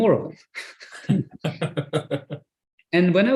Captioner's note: laughs